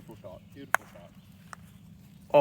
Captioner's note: ball banging